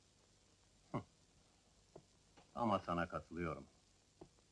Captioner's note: chuckles